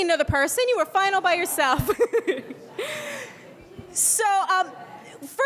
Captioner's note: laughs